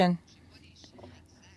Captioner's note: speaking French